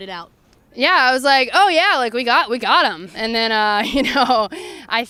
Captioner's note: laughs